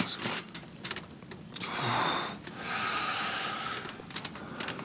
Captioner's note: John groans